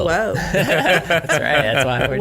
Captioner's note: laughing